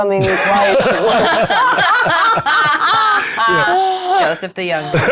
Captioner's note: players laughing